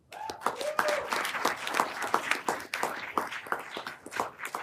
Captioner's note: everyone applauding